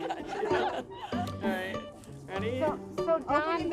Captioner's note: crowd laughing; overlapping chatter